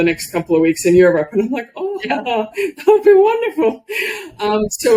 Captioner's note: laughs